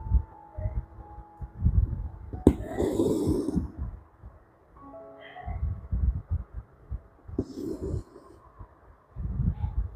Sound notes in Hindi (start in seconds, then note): 2.5 कराहने की आवाज़